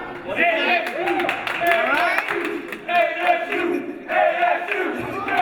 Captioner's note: audience chanting "ASU"